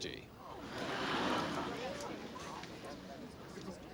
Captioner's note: crowd gasping